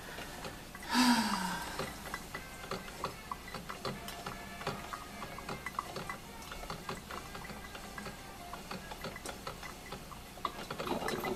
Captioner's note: sound of coffee brewing